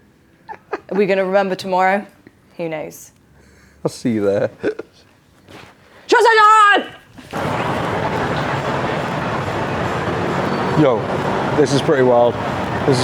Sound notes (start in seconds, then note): 0.4 laughing; 7.2 bustling street